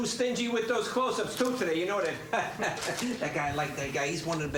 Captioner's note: chuckling